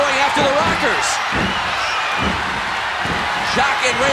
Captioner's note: audience cheering